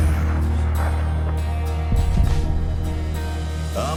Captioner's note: gunshot